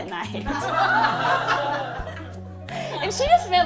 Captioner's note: laughter